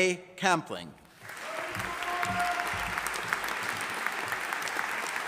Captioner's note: audience applauding